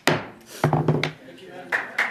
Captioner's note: applause